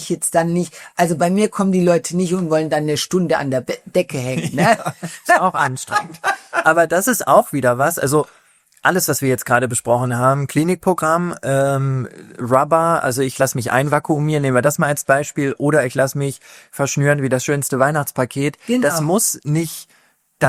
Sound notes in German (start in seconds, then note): 4.3 gelächter